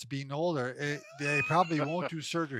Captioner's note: laughing